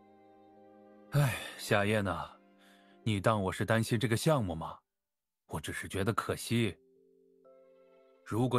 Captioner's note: sigh